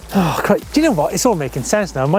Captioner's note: sighs